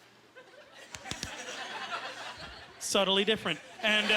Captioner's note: laughing; smacking